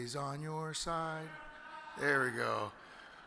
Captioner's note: audience member hollers